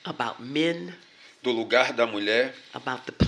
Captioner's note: speaking portuguese